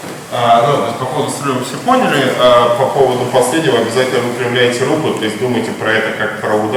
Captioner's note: speaking in a foreign language